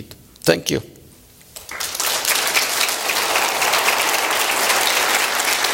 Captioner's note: applause